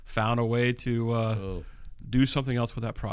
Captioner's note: uh